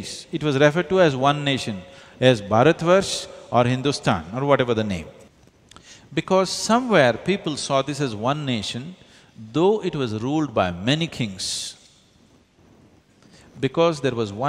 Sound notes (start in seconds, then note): none